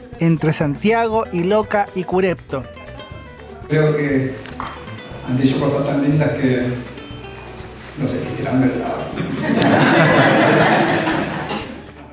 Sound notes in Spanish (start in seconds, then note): 8.4 risas